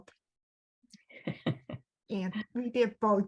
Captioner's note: laughing